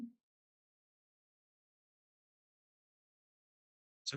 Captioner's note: silence